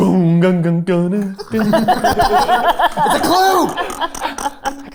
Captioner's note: babbling